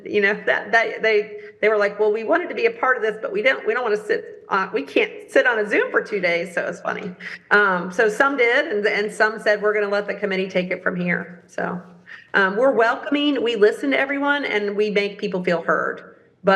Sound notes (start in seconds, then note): none